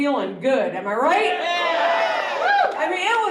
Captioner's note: cheering